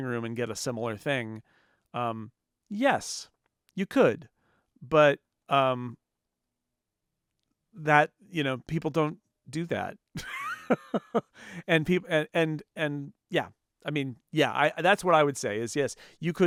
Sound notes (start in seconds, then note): 7.7 laughs